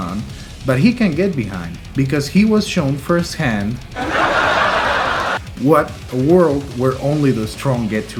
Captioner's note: laugh track